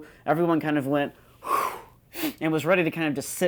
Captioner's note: exhaling